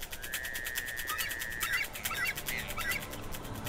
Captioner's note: bird calls